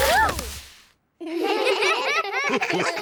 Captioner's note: all giggle